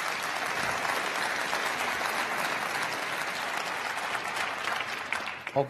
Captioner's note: crowd applauding